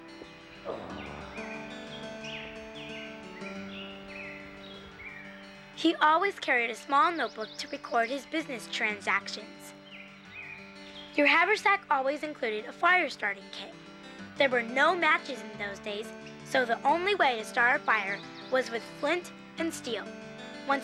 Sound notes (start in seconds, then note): 0.6 sighing; 2.4 lively music